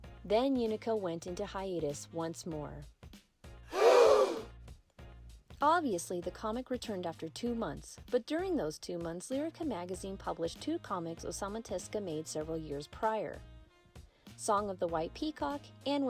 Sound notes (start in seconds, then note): 3.7 gasp!